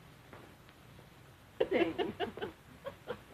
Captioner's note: chuckling